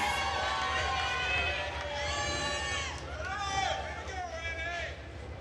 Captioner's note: attendees cheering and applauding